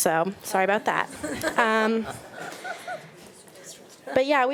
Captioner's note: board members laughing